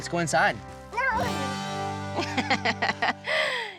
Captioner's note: laughing